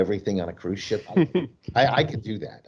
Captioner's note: laughs